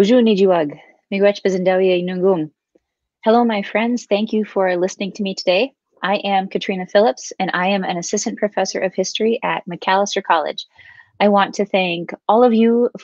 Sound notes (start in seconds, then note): 2.3 speaking Ojibwe